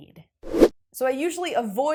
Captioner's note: graphic whooshes